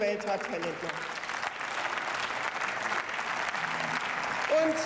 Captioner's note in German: Beifall